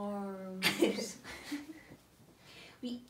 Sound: laughs

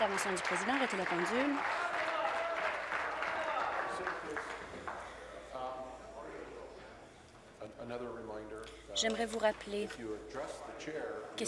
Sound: applause

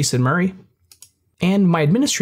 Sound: mouse clicks

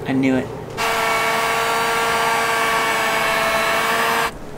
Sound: vroom

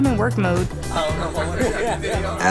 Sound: laughter

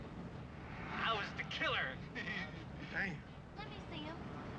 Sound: laughs

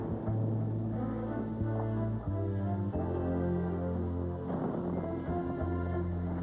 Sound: thunder

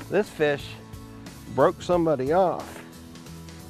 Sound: none

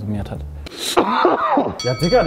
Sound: cough

